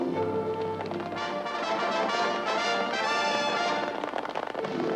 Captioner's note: horses galloping